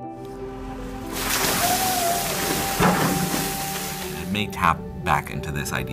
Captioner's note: water splashing